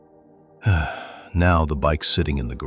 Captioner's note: sighing